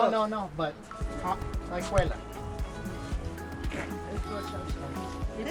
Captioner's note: speaking foreign language